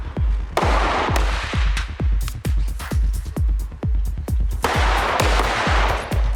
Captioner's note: suspenseful music continues; gunshots blasting; suspenseful music continues